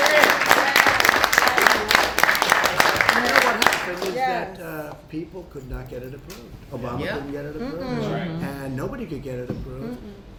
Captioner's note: applause